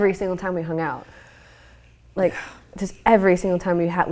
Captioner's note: whispers